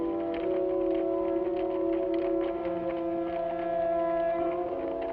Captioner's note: suspenseful music; horse hooves patter